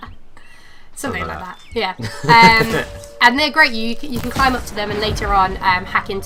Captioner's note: laughter